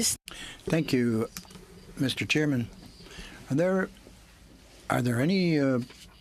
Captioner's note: speaking French